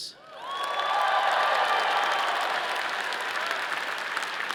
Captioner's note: all cheering